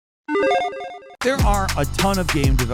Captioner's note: digitized beep trilling